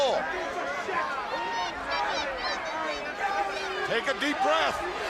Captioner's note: crowd chatter